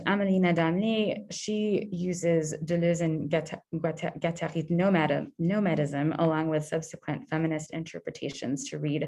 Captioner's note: French